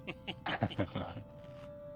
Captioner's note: laughter